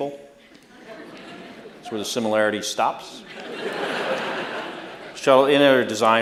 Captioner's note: laughter